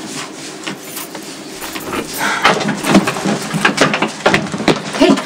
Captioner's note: keys rattle